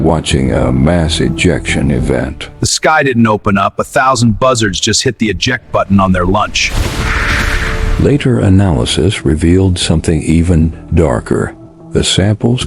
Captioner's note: sarcastic Commentary